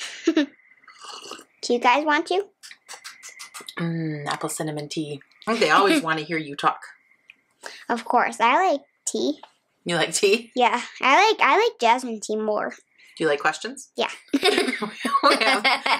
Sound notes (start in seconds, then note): 0.2 laughs; 0.8 nana sips drink; 14.3 both laugh